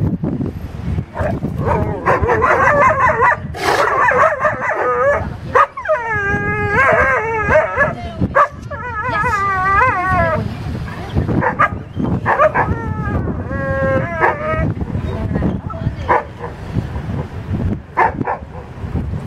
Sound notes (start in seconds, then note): 1.2 sea lion angry; 3.2 dogs barking and howling